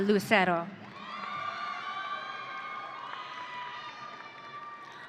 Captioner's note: audience cheering